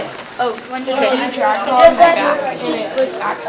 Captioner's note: chatter